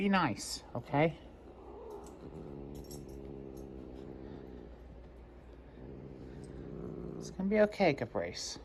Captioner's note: growls